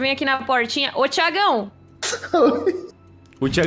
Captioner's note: laughing